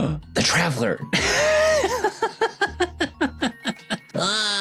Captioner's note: laughing